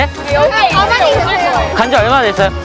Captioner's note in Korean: 웅성웅성